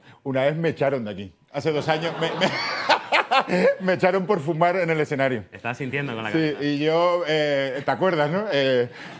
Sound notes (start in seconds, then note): 3.1 laughs